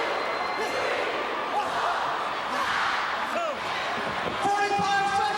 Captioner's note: crowd cheering